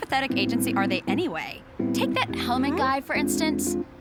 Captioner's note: none